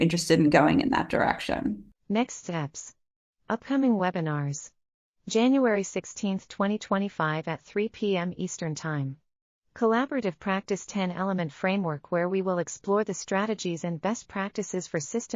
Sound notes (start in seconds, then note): 1.9 audio Description being read